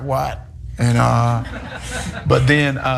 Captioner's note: laugh